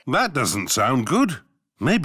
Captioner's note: none